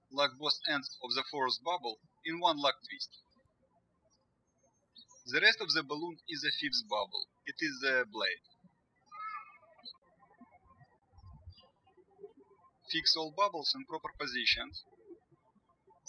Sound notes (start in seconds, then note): 9.7 birds chirping; 15.8 birds chirping